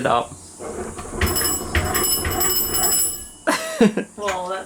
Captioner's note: bell ringing; laughing